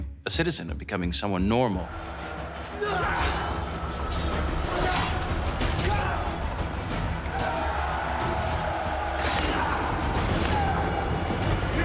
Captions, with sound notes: of becoming someone normal. [gladiators grunting] [crowd cheering]